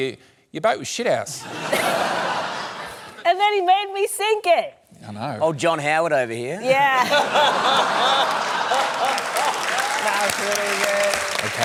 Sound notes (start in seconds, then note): 1.4 laughter; 6.9 laughter, applause